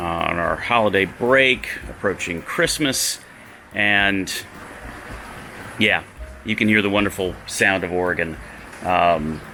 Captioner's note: rain